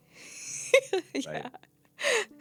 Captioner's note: laughing